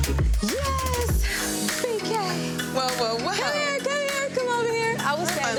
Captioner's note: overlapping chatter